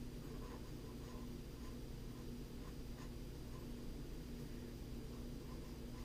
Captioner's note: pen writing on paper